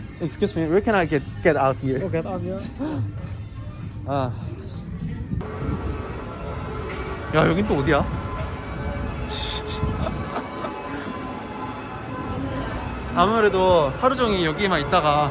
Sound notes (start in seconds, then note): 9.8 laughing